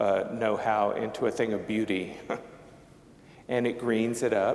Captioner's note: chuckling